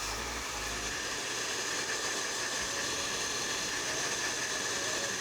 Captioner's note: hair dryer blows